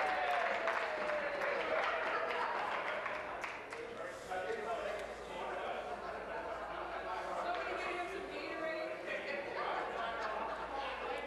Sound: applause

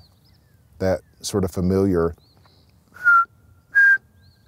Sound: whistles

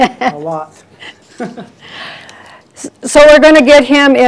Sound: laughs

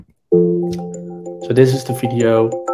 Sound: electronic jingling

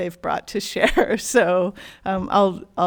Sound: chuckles

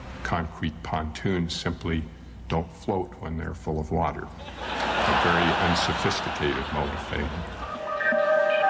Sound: audience laughter

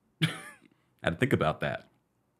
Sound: laughing

